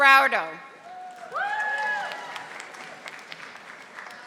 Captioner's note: audience applauding